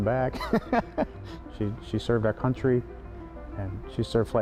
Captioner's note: laughing